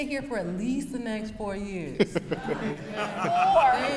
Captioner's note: brief laughter